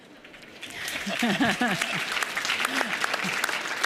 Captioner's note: audience applauds